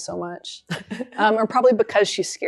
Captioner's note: laughs